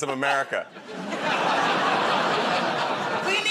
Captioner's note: laughter